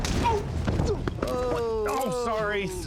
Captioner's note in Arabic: لكمة; لكنة اسكتلندية